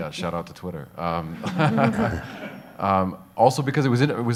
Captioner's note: audience laughs